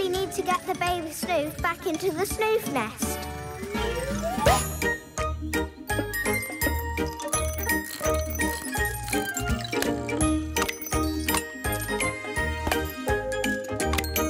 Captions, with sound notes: - We really need to get the baby Snoof back into the Snoof nest. (playful music) (whirring)